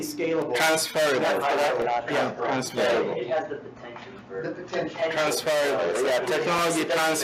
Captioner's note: indistinct chatter